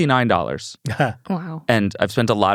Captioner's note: chuckles